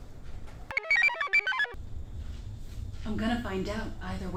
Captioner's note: computer chirps